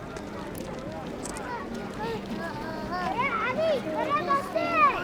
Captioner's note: children speaking foreign language